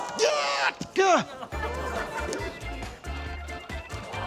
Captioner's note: strains; grunts